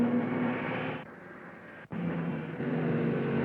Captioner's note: cars revving